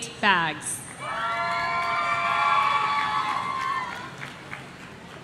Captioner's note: audience cheering